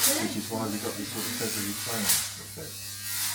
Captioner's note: sound of arcing electricity